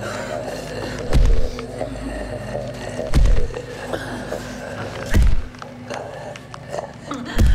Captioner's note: Holly gasping; mummy growling; feet stomping